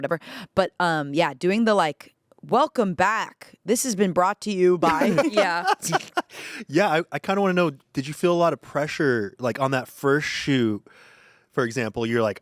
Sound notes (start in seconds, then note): 4.8 everyone laughs